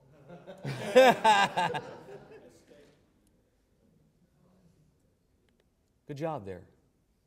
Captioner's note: laughter